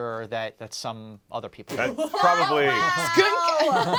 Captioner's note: guffaws